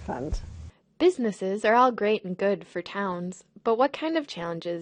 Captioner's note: voiceover